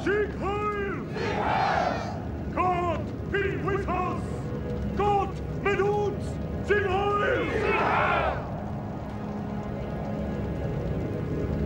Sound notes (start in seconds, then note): 3.8 aryan speaker speaking German